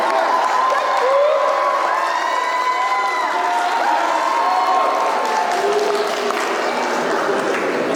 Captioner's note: applause